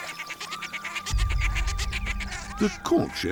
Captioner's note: birds nattering